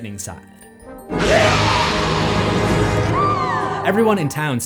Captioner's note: scream